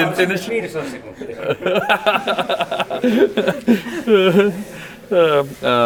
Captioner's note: Destin and others laughing